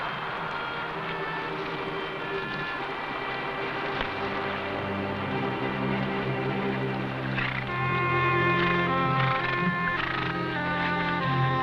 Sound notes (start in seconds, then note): 0.2 somber music; 7.2 horses snorting